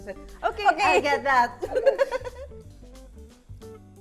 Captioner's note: laughs